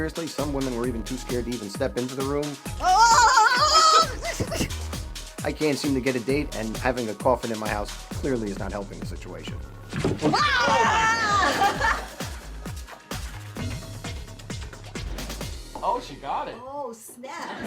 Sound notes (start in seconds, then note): 2.8 shouts; 10.4 laughs; 12.3 upbeat ambient music